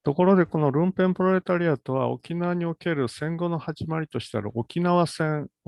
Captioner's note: speaks in Japanese